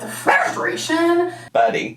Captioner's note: Potato barks